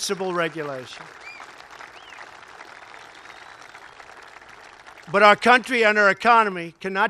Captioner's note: applause